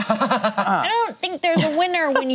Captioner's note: laughs